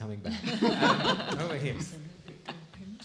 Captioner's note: laughing